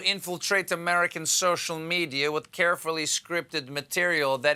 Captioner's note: with russian accent